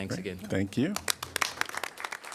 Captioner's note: applause